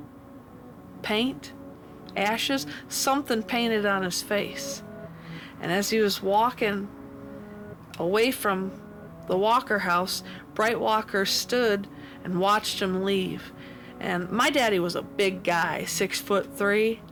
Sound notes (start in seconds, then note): none